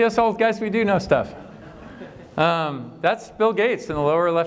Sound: laughter

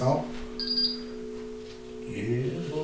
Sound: device beeping

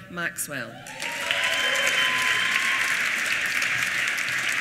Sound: applause

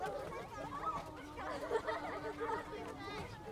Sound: children laugh

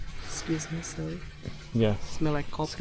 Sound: sniffs

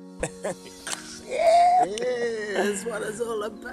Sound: laughs

